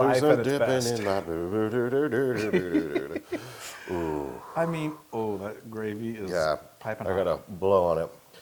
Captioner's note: laugh